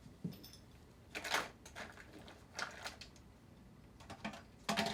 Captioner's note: products rattling